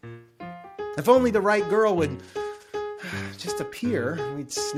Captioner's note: sighs